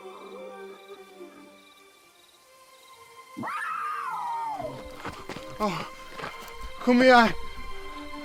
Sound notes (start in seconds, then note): 2.6 wild animal growl; 3.4 wild animal screech